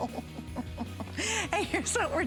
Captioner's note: laughter